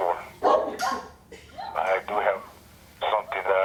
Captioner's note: dogs barking